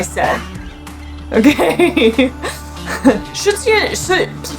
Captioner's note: laughs